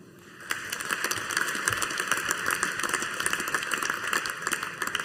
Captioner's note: audience applauding